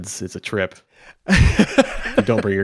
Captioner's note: laughs